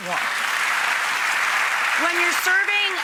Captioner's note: applause